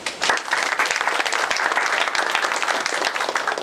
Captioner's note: applause